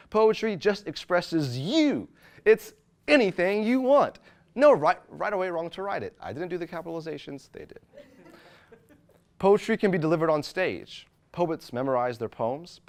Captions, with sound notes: Poetry just expresses you. It's anything you want. No right or way wrong to write it. I didn't do the capitalization's, they did. (audience laughing) Poetry can be delivered on stage. Poets memorize their poems.